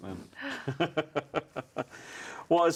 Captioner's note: laughing